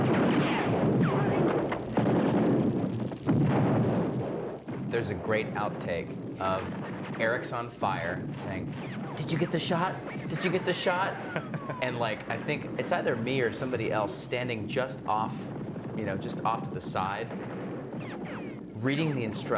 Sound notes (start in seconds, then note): 0.0 bullets ricochet; 10.1 laughs